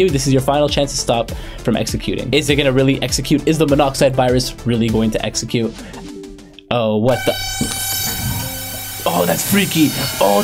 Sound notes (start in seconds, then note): 7.1 computer chiming; 7.2 virus screeching